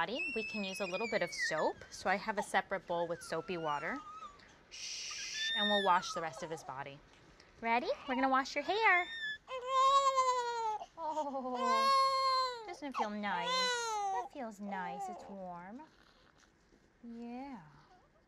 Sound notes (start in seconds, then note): 8.8 baby squealing; 11.0 baby crying